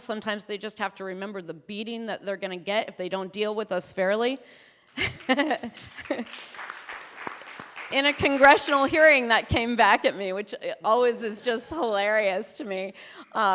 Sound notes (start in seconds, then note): 4.9 audience clapping; 5.0 chuckles